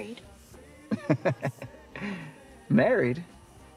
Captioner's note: Eddie laughs